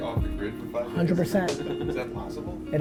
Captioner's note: laughs